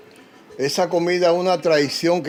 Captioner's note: speaking Spanish